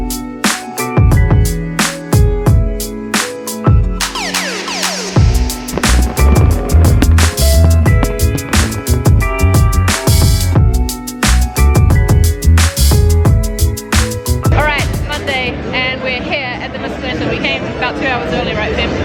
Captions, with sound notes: (fireworks) - Alright it's Monday and we're here at the mascleta, we came about two hours early right Fem?